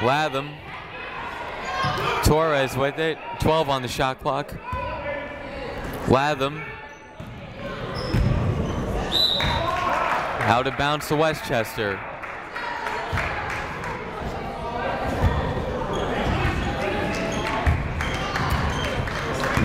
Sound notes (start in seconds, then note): 0.0 people shouting in the crowd; 9.1 whistle tweeting; 11.9 crowd clapping; 15.1 people talking in the crowd